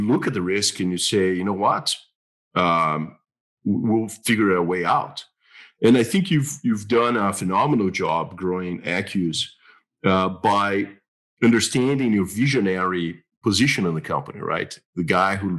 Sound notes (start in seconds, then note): none